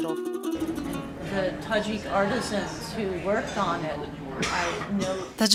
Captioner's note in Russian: английская речь